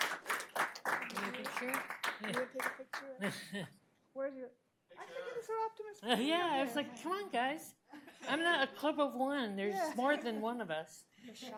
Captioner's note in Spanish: Aplausos y aplausos